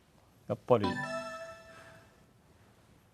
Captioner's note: electronic startup sound